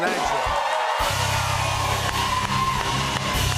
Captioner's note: cheers and applause